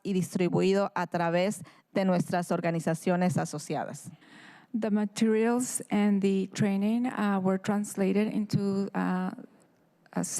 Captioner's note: speaking in spanish